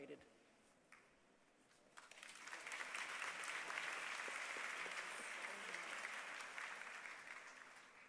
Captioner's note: applause